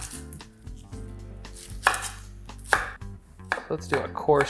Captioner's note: chopping onions